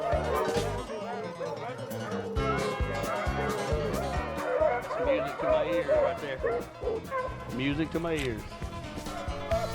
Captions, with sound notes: (dogs howling) - Music to my ears right there, music to my ears.